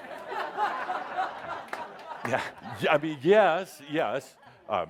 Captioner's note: laughter